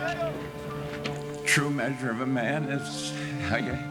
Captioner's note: voice breaking